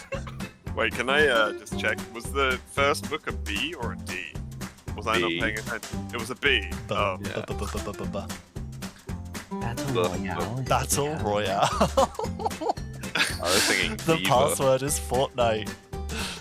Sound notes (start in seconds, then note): 13.0 laughing